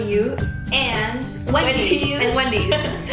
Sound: laughs

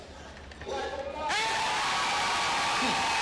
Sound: cheers

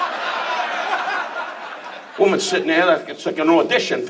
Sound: audience laughs

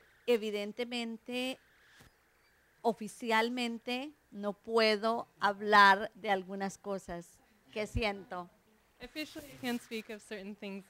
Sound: Spanish

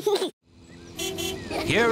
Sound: giggles; car horn honks

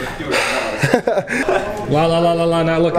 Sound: laughs

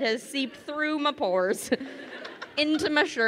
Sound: crowd laughing

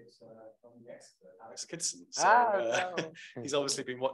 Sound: chuckles

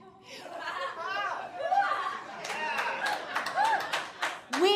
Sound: audience laughing and clapping

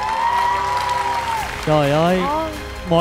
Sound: applause

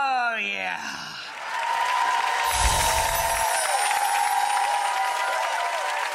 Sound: audience cheering and applauding

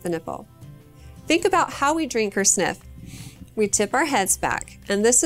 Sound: sniffs

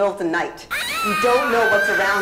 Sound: squealing

